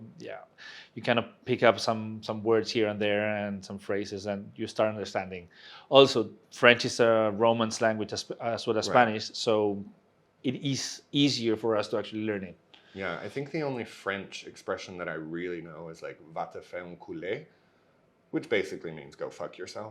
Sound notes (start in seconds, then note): 17.0 speaks in French